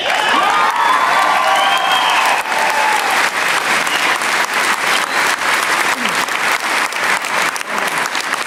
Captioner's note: applause